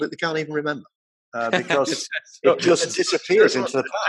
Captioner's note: laughing